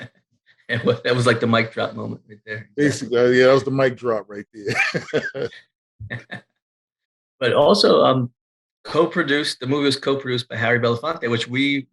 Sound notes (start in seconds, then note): 5.8 laughing